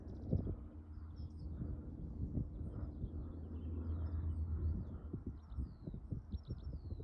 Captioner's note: birds singing